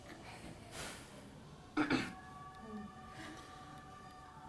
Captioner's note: clears throat